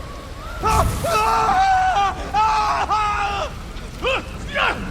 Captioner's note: NPC catches fire and screams